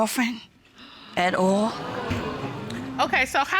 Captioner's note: audience exclaims